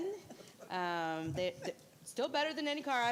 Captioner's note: laughing